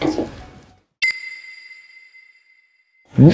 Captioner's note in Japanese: ピックアップ 効果音